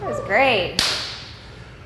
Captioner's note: hand slap